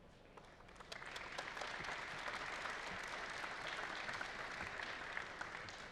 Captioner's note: applause